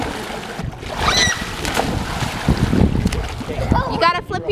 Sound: screaming

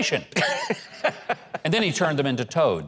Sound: laughs

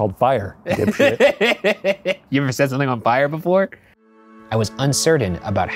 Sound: laughing

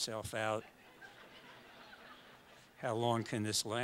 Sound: audience laughs

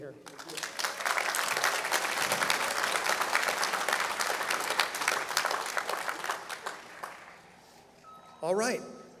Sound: applause

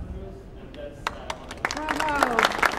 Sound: audience applauding

